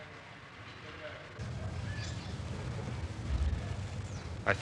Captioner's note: outdoor Sounds